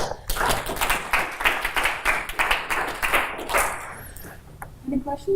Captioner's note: applause